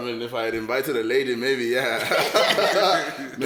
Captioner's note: everybody laughs